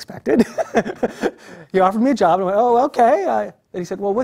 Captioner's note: laugh